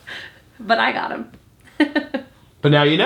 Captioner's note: laughs